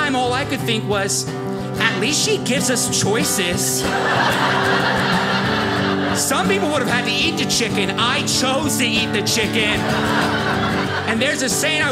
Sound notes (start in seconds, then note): 3.6 audience laughing